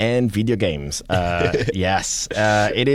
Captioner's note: laughs